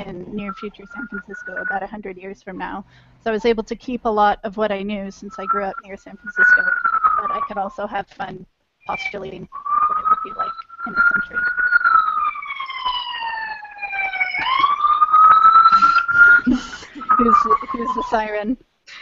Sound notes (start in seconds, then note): 11.3 siren in the background; 15.6 laughter